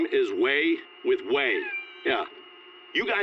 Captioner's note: cat meowing